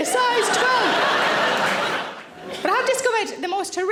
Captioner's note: audience laughing